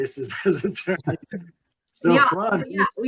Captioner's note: laughs